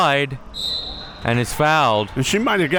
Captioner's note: whistle being blown